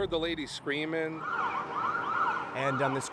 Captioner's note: sirens wailing